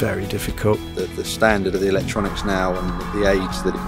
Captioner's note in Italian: Voce fuori campo